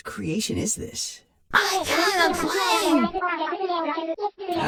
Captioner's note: Speaks Nintendo Language